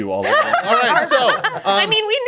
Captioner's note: group laughing